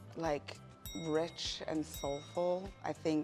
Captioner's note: two dings